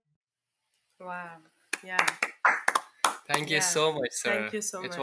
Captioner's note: both applauding